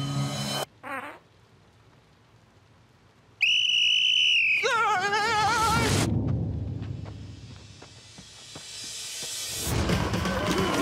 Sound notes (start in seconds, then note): 0.8 passes gas; 3.3 yelling; 3.4 whistle blows